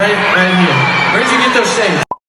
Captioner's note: fans screaming